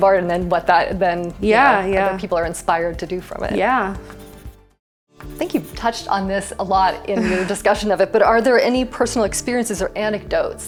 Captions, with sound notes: - And then, what that then, you know, - Yeah, yeah. - other people are inspired to do from it. - Yeah. (pencil scratching) - I think you've touched on this a lot in your discussion of it, but are there any personal experiences or anecdotes